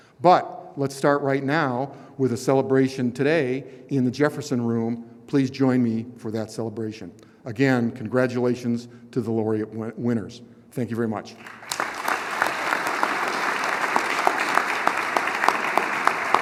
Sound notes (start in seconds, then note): 15.2 applause